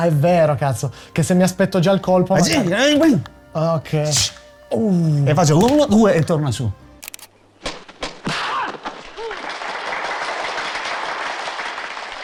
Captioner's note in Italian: Applauso